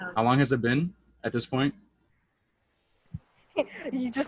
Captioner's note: laughs